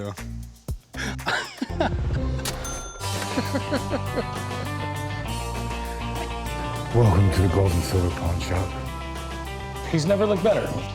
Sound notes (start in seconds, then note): 1.0 laughs; 3.2 laughing; 6.2 deep voice